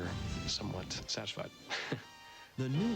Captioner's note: laughs